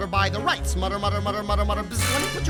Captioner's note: buzzing